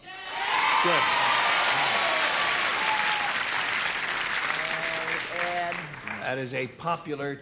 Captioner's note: cheering